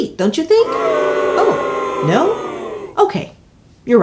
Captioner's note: crowd booing